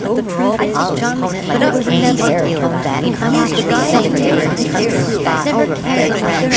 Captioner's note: noise of 1000 liberals at once